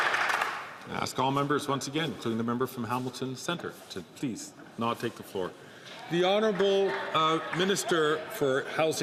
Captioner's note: some Applause